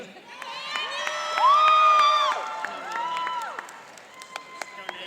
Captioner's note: cheering and applauding